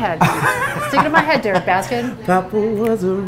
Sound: laughing

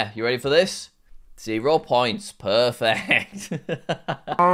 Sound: laughs

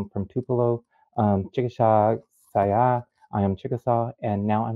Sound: speaking in foreign language

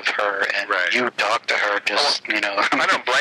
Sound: laughing

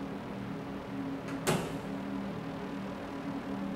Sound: door closes

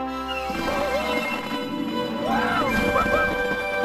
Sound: Kermit whooping

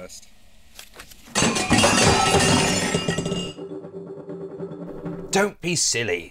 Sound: sound of table flip

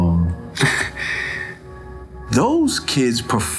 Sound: chuckles

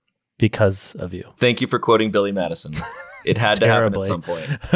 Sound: laughs

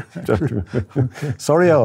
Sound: laughter

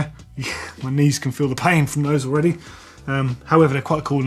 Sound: laughs

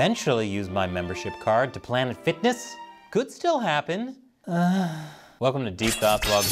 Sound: sighs

